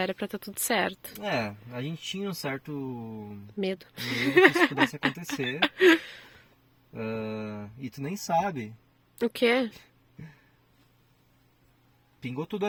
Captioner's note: laughter